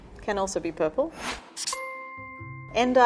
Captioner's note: ping